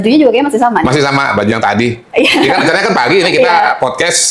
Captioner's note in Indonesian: tertawa